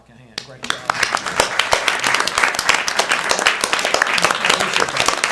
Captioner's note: attendees applauds